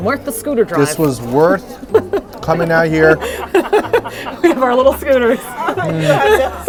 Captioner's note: laughs